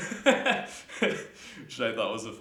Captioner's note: laughing